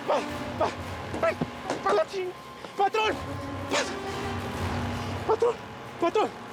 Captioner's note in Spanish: exclamaciones